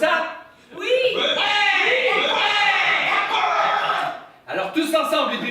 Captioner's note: cheers and applause